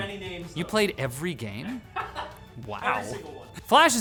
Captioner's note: laughs